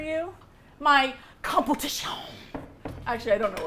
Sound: dramatically

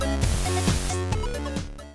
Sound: static

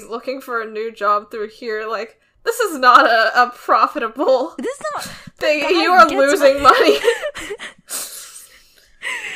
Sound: both laugh

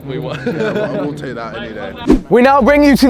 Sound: men laughing

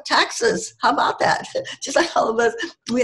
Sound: giggles

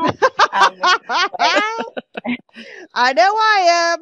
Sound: all laugh

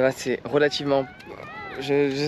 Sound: speaking in foreign language

